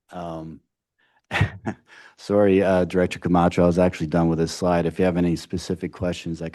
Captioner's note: laughs